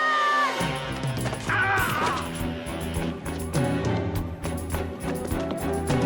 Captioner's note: officer screaming; dramatic music continues